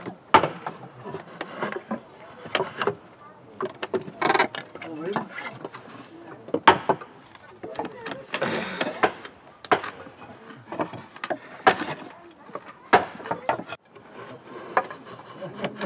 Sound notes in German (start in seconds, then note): 3.9 Ratschen; 9.6 Hämmern